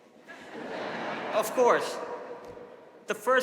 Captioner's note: audience laughing